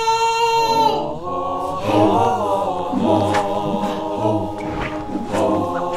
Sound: voices chanting

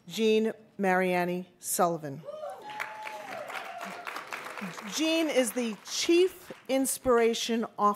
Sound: applause

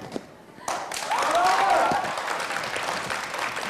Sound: clapping

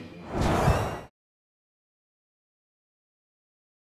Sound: whoosh

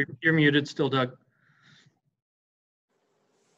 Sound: none

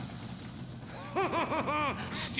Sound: laughing

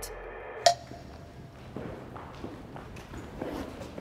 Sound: timer ticking

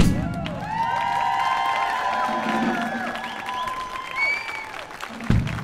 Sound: audience cheers and applauds

